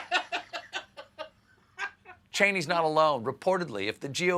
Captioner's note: laughter